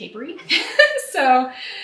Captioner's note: laughs